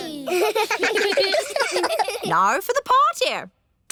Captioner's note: kids giggling